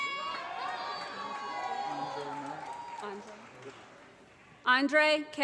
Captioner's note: cheers